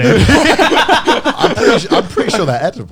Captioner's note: men laugh